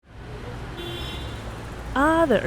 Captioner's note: horn honking